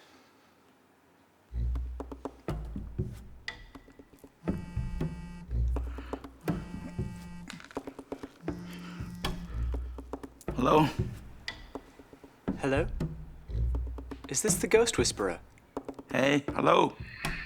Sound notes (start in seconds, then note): 6.4 suspenseful music; 8.4 phone ringing